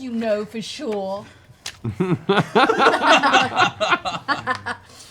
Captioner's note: laughter